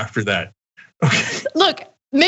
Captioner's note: laugh